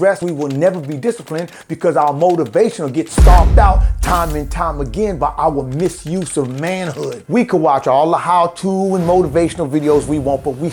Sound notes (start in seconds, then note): none